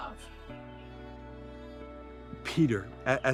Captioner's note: gentle music continues; birds chirping